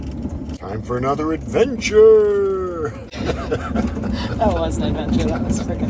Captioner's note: laughing